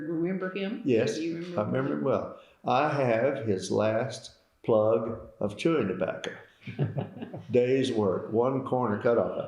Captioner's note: laughter